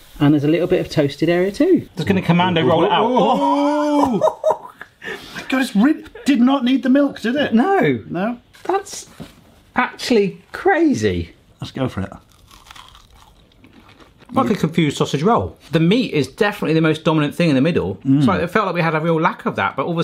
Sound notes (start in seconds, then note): 2.6 both exclaim giddily; 12.1 burger churros crunching